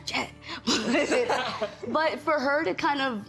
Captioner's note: everyone laughing